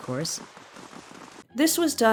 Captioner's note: footsteps